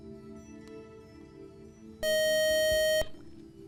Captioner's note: buzzer